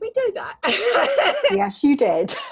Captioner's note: laughing